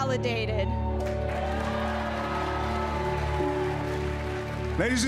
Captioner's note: cheers and applause